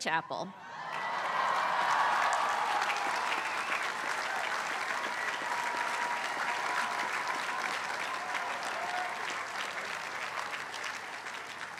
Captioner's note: applause